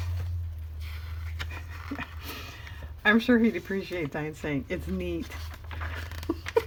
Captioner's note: laughs